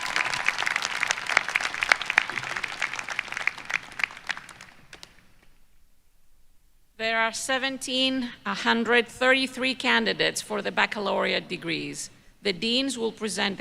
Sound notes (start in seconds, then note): 4.7 applause